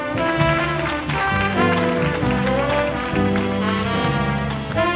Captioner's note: audience applauding